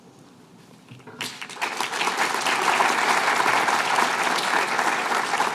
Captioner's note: applause